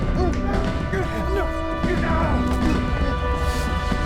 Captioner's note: yelling; dramatic music